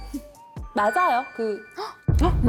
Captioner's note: sound effect of admitting it